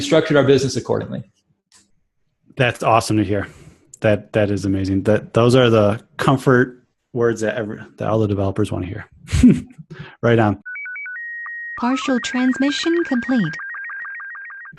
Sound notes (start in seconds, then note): 9.3 chuckles; 10.6 beeping; 12.0 voiceover